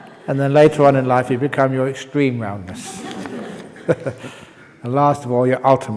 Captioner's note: laughs; laughs